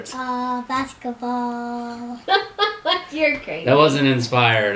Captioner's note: laughs